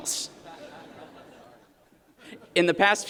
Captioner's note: laughter